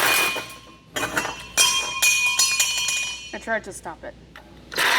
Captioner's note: bell Ringing